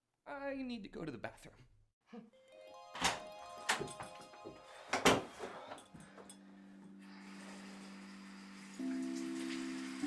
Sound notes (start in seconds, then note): 2.1 magical peaceful music; 3.0 clacking; 7.0 splashing